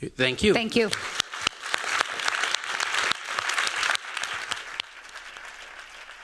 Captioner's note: applause